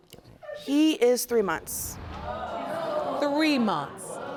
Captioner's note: audience gasping